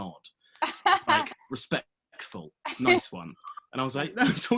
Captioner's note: laughs